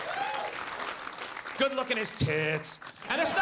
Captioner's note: audience laughs